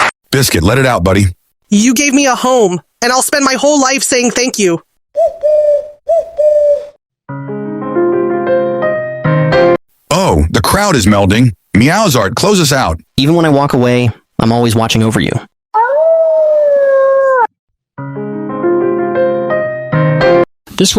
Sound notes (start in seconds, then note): 5.1 dove coo